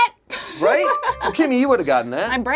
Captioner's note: buzzer rings